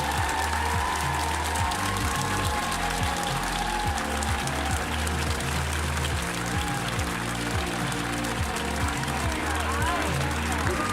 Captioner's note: cheers and applause